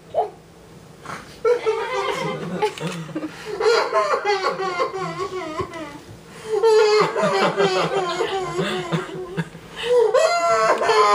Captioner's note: crying